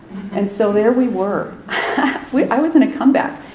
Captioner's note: chuckles